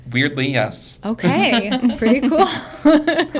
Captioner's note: group laughing